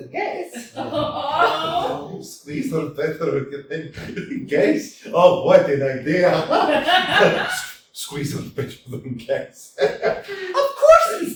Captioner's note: laughs